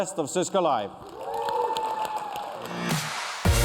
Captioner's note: cheers and applause